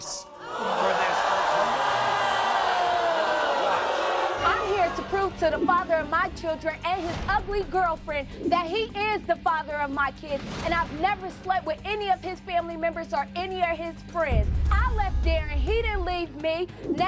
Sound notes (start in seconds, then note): 0.0 drowned out by audience groaning